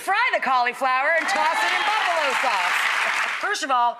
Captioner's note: audience applauding